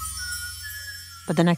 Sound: A wind chime twinkles as a person whistles a good morning tune

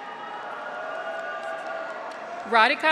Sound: audience applauds; graduates cheer

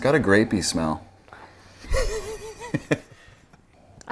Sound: laughing

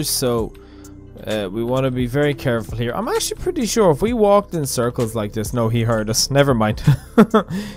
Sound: awkward chuckle

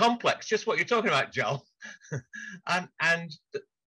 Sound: laughs

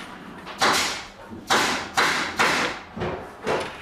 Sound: distant working noise

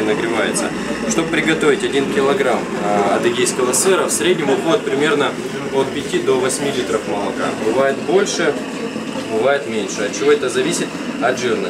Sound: Circassian

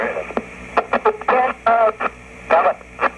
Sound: static

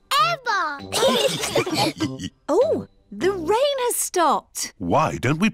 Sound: laughter

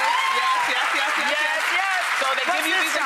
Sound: audience applauding

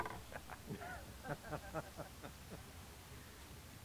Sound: laughing

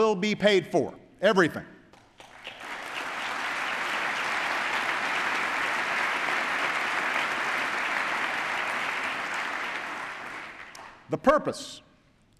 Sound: applause

